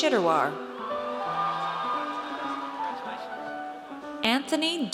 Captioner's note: audience cheers